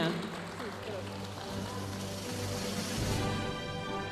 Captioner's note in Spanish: aplausos de la audiencia; continúa la música majestuosa suave en el fondo